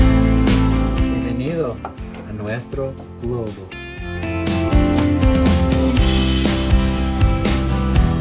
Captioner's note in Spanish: Español